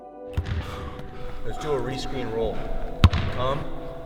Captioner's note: ball bouncing